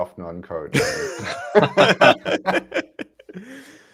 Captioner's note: laughter